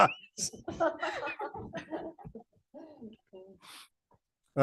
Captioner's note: laughter